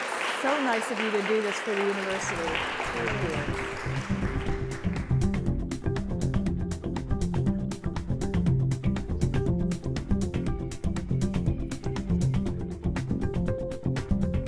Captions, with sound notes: It's so nice of you to do this for the university. (applause) (light upbeat music)